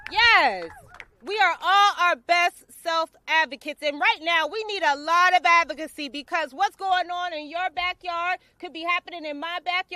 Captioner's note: cheering